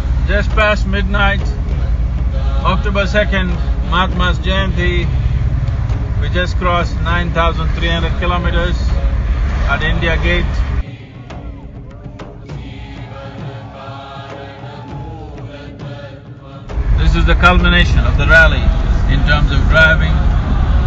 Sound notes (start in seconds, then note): 11.8 cheers